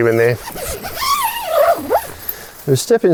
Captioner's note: zipper opening